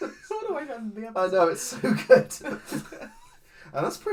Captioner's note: laughs